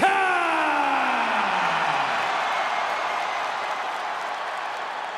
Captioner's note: audience cheering